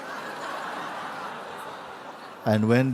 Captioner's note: laughter